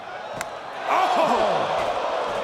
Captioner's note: hand slaps